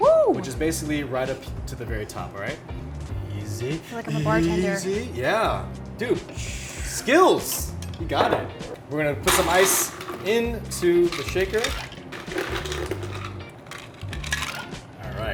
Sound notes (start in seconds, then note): 6.4 Megan exhales heavily; 10.6 ice rattles